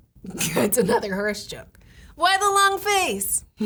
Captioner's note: laughing